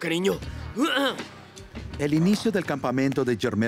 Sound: gruñe

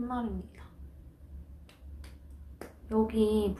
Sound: self applause clap clap clap

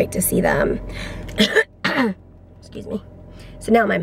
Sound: coughs

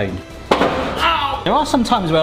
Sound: loud thud

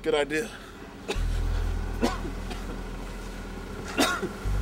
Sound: Dr. Richards coughs

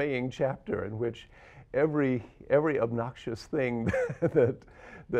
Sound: chuckles

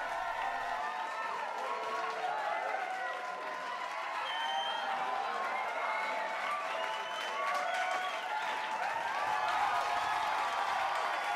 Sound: crowd cheering and clapping

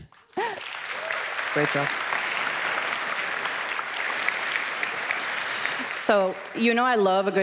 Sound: cheers

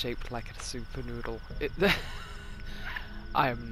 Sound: laughs

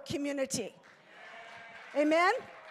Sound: congregation applauding

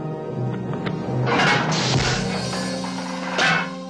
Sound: tense orchestral music; hitting

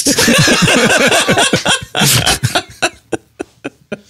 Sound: laughing

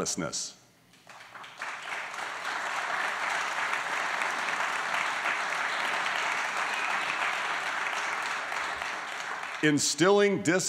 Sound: applause

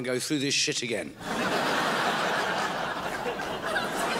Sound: crowd laughs

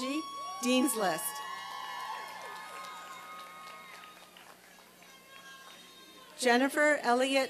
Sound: applause and cheering

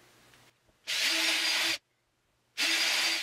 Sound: drilling

